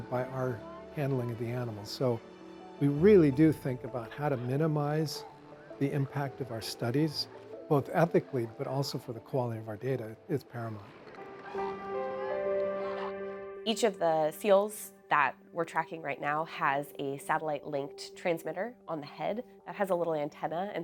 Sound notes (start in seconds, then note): 12.2 gentle music; 12.2 seal grunts; 12.8 person shouts; 12.8 seal grunting